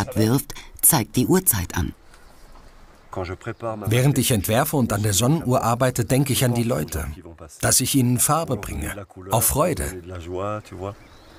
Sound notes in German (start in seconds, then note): none